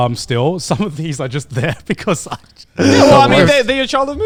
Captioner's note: laughs